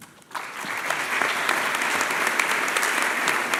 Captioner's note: applause